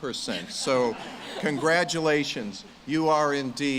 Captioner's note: audience laughs